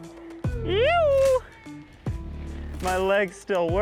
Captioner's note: shouting